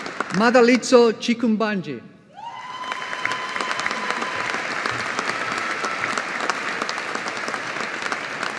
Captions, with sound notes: Madalitso Chikumbanje. (AUDIENCE APPLAUDING)